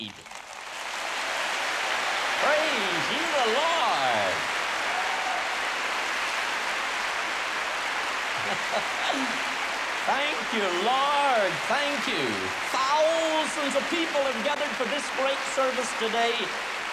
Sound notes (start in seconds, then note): 0.2 boisterous applause; 8.3 laughter